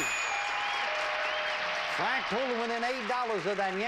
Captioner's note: bell dings; audience applauding